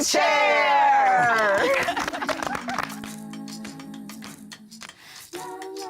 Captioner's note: applause